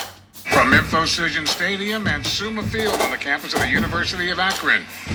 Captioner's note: drum beat; radio Announcer